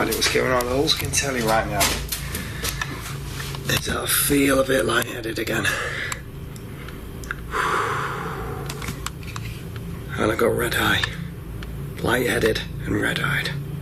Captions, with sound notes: I don't why that was going on. All I can tell you right now, that I feel a bit lightheaded again. (loud exhaling) And I've got red eye. Lightheaded and red-eyed.